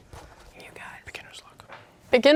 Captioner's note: whispering